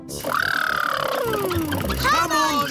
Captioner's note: makes sputtering noises